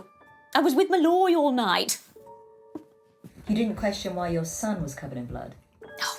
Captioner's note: none